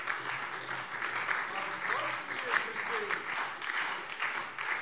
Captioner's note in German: Beifall SPD